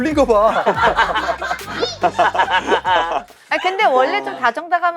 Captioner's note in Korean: 웃음